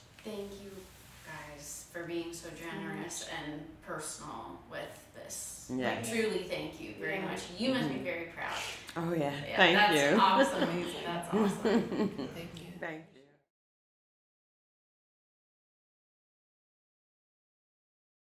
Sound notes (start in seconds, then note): 11.3 chuckles